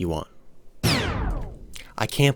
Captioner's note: record Scratch